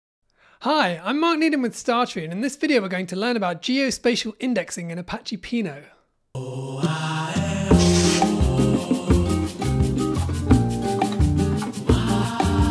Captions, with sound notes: - Hi, I'm Mark Nedam with StarTree, and in this video, we're going to learn about geospatial indexing in Apache Pinot. (lively music) (text whooshing)